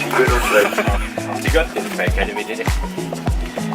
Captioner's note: speaking Austrian German